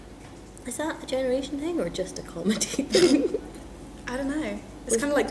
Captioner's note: snorts